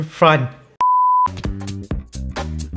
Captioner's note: beep